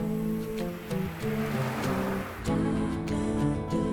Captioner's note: car rumbling